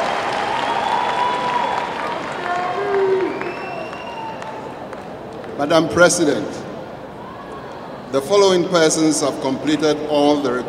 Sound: applause

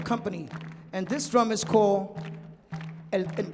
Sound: speaking in Spanish

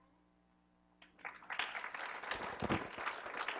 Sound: applause

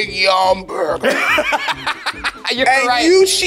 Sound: laughs

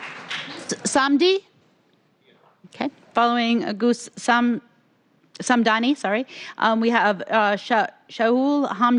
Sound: applause

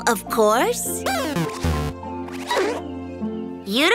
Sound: beeps

